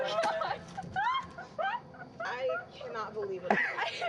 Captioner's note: laughing